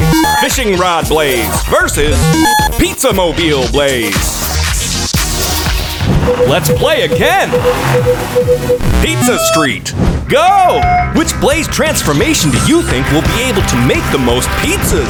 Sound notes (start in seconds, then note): 6.2 beeping